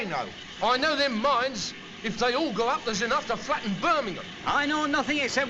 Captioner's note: none